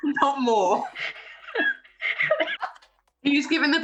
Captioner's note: laughter